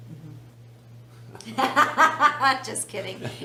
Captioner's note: laughs